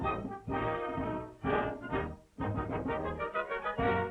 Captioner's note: none